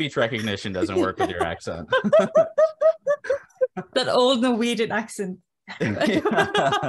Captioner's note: laughter